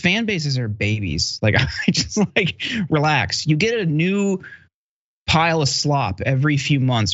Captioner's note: laugh